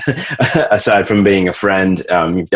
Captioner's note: laughs